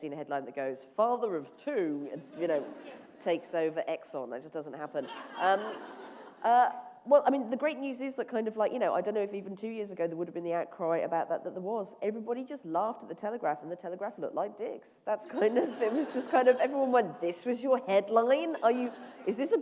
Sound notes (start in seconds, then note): 15.2 laughter